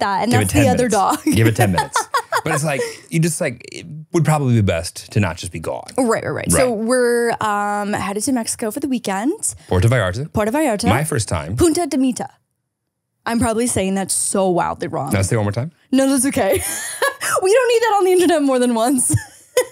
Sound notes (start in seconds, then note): 2.8 laughs; 17.0 laughs